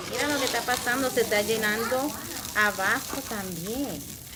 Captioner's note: teacher In Spanish